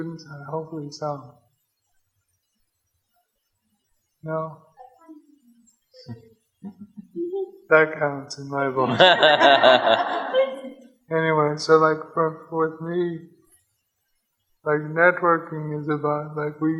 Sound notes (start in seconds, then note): 8.9 audience laughs